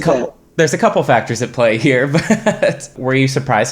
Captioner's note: chuckling